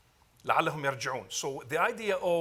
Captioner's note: speaks Arabic